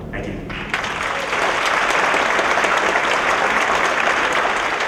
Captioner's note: applause